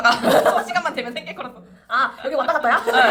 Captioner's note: laughs